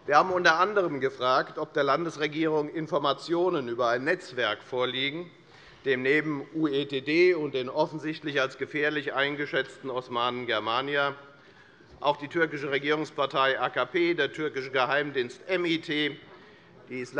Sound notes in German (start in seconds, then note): none